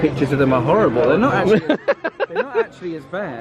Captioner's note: laughs